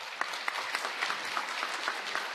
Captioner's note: applause